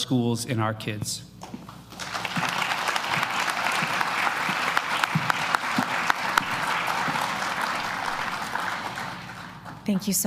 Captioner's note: applause